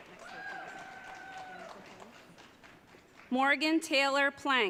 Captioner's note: audience cheering